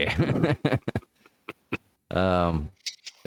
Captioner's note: laughs